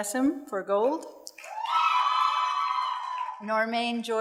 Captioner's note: audience cheers and applauds